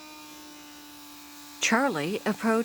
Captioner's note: tools buzzing